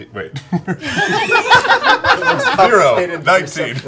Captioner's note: laughter